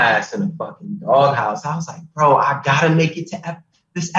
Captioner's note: all laughing